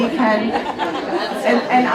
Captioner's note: audience chatters